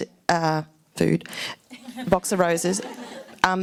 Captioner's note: laughs